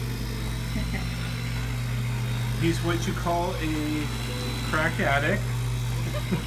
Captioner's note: laughs